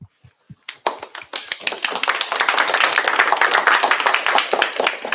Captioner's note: applause